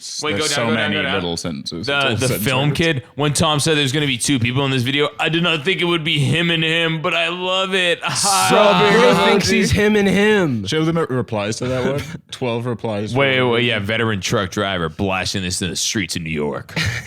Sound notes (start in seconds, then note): 8.5 laughs sarcastically